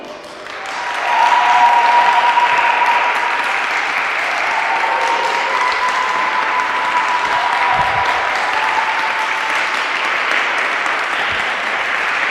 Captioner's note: applause